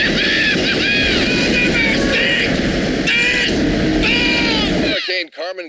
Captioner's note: laughing hysterically